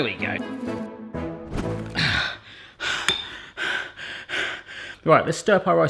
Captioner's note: breathing heavily